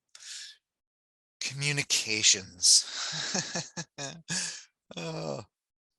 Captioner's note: laughs